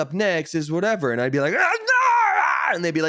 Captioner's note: yelling